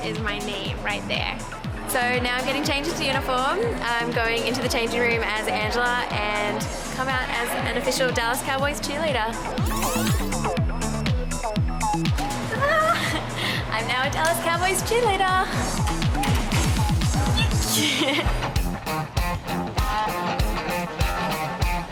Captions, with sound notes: is my name right there. - So right now I'm getting changed into the uniform. I'm going into the changing room as Angela and come out as an official Dallas Cowboys cheerleader. (tape fast forwarding) (upbeat music) Ta-da! (laughing) I'm now a Dallas Cowboys cheerleader. (upbeat music) (laughing) (upbeat music)